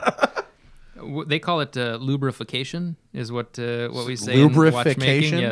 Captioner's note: laughter